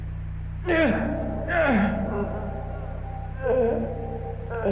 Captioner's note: Aurthur groaning